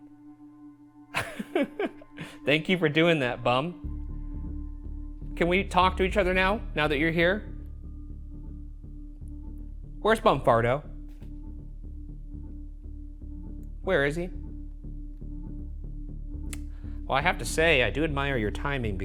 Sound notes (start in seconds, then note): 1.1 laughs; 11.4 eerie music; 14.8 eerie music